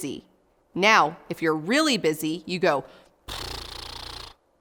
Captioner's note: blow raspberry